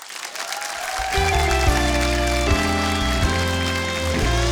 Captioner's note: audience cheers; upbeat music